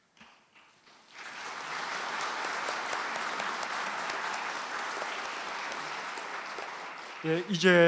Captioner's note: applause